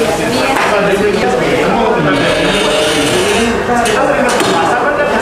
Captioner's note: distant chattering; press machine sound; distant chattering